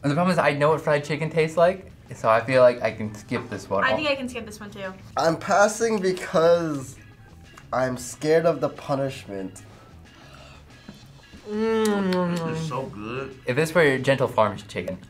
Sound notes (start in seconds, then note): 10.8 smacks lips